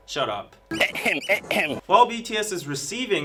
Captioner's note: someone in a penguin costume saying "ahem" repeatedly